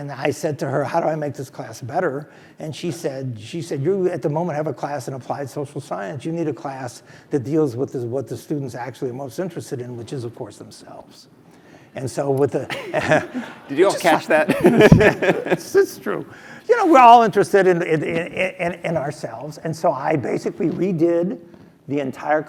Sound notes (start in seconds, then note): 12.7 laugh